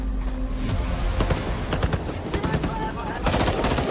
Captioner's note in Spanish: Disparos